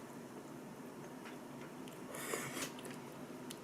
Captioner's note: slurp